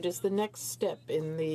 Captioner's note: speaking French